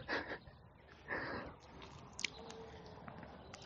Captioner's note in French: rires